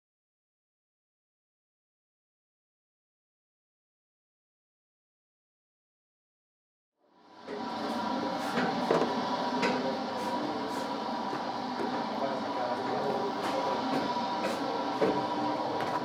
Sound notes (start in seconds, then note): 7.1 Bread trough running in the background